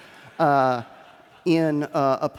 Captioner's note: laughter